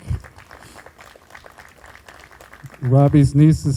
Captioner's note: group applauding